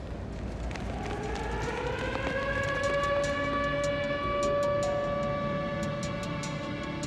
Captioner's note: sirens